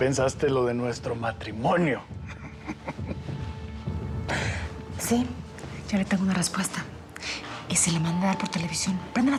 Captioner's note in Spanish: risa cínica